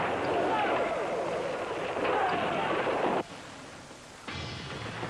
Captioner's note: soldiers yelling